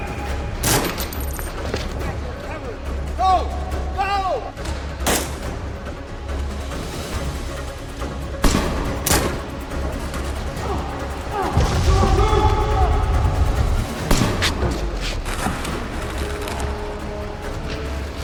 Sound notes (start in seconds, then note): 4.4 dramatic music; 5.6 gun banging; 11.8 man yelling; 12.8 dramatic music; 14.4 gun banging; 15.4 dramatic music